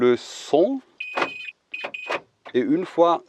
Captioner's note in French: Bip de fermeture